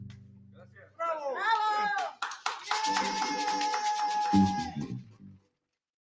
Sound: all speaking in foreign music

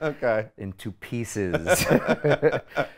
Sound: laughs

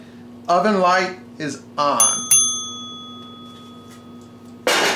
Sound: dinging; clanging

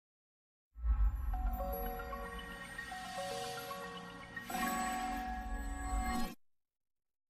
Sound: high-pitched digital chimes, followed by a low-note finale

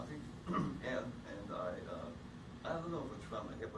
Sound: clears throat

